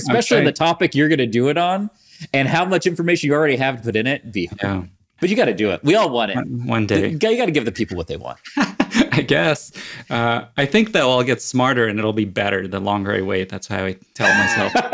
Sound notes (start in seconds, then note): 8.4 laughs